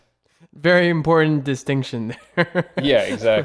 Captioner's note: laughs